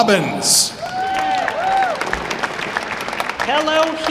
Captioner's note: audience applauding